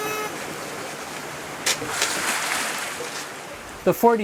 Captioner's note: water whooshing